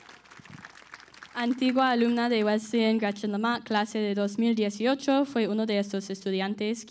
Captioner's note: audience applauds; speaking in Spanish